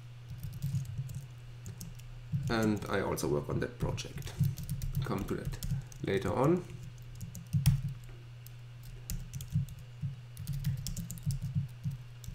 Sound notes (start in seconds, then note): 7.7 typing